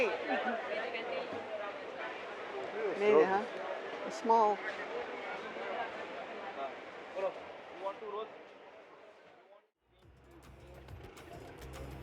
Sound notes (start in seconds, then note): 1.0 chatter; 6.5 chatter